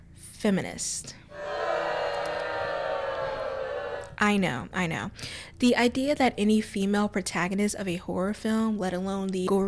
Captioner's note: loud booing